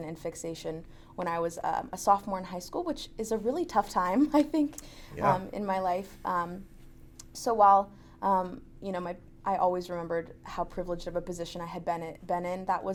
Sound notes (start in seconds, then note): 5.1 laughs